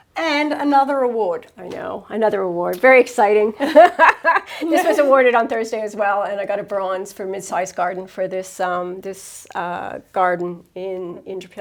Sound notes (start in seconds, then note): 3.6 laughs